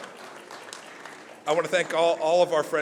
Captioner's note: applause